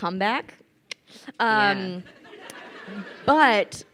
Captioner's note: crowd laughing